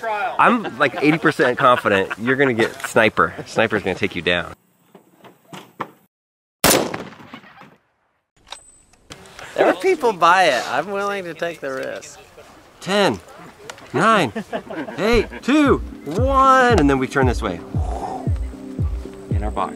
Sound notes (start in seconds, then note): 6.6 gunshot